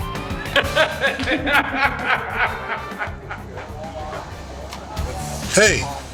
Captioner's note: man laughs